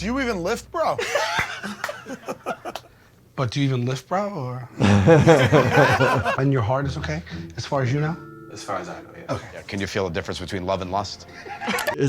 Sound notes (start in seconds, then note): 4.8 all chuckling